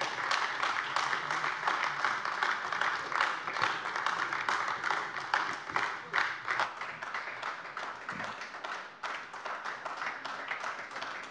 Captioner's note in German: Anhaltender Beifall AfD